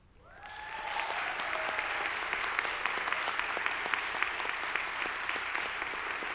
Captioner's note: audience applauding; audience cheering